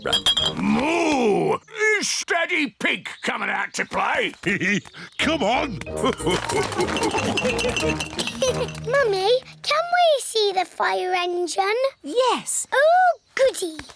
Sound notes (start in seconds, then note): 5.9 laughs; 6.0 giggles; 8.1 all laugh